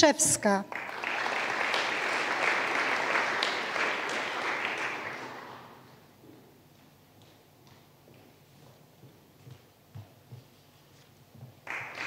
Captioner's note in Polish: oklaski